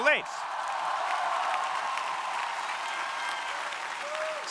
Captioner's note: crowd applauding